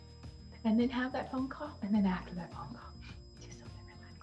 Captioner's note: whispers